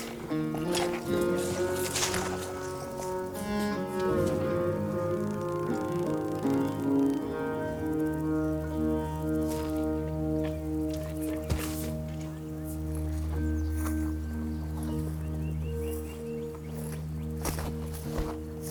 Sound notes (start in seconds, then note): 2.0 snorts